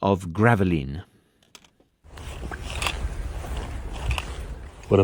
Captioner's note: footsteps crunching